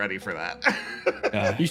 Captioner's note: laugh